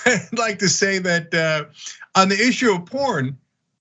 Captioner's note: laugh